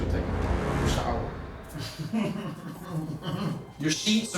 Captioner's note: laughing